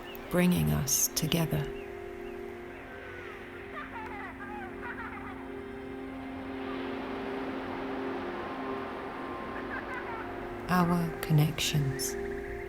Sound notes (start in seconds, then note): 3.2 echoes of children's laughter; 6.4 ocean sounds